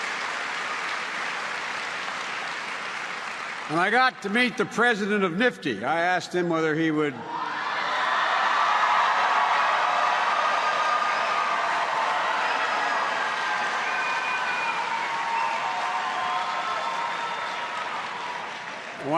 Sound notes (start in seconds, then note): 10.2 applause